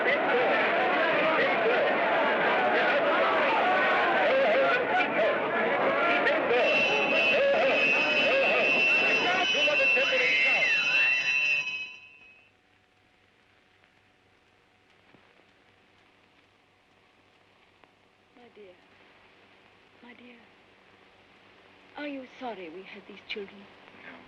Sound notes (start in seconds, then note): 0.1 crowd yelling & commotion; 9.5 alarm rings; 10.2 crowd yelling & commotion